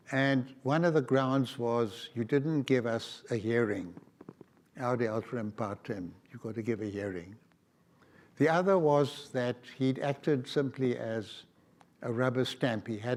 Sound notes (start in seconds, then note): 4.8 speaks foreign language